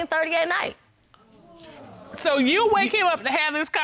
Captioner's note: audience gasping